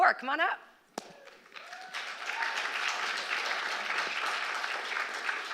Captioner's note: applause